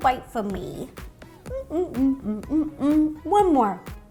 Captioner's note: Ro humming while chewing cake